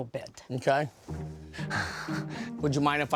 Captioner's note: laughs